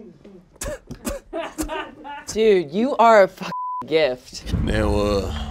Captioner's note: beep